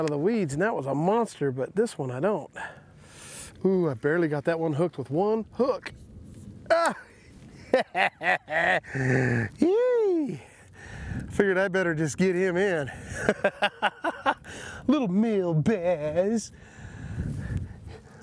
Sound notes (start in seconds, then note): 7.6 laughs; 13.0 chuckles